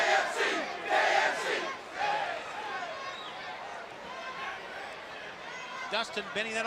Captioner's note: crowd chatter